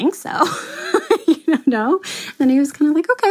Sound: laughs

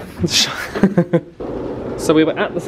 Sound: chuckling

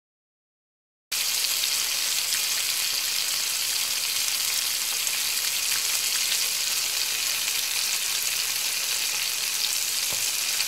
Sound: sound of frying

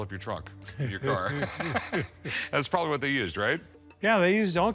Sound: laughghs

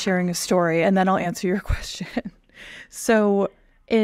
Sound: chuckles

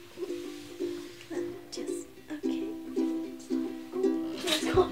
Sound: murmuring; thumping

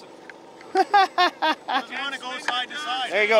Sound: laughs

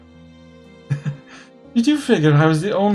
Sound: chuckles

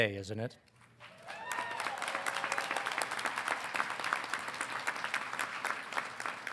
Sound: audience applauding; audience cheering

